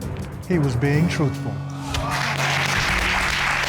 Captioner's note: applause